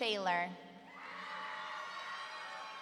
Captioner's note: audience cheering